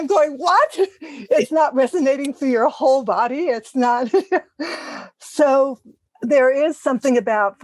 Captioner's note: laugh